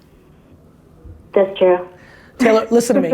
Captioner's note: laughs